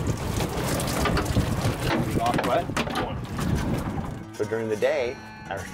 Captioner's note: background conversation